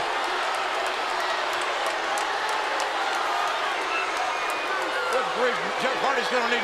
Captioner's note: crowd shouts and claps